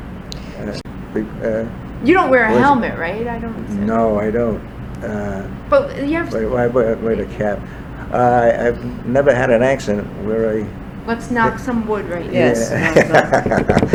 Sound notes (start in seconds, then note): 12.2 laughs